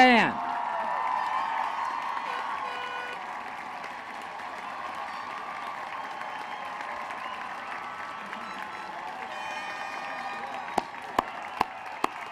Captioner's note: applause